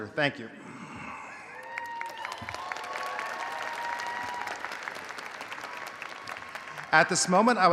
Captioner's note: audience applauding; audience cheering